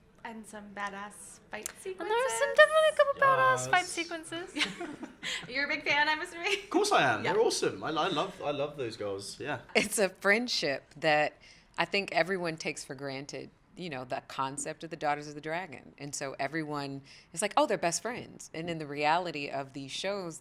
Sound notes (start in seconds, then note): 4.5 laughter